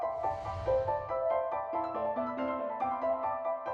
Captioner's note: ambient shimmering